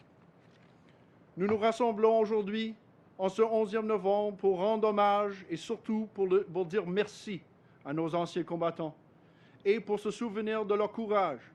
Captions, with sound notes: Many have also served in international conflicts and peacekeeping missions in places such as Syria and Rwanda. (Speaks French)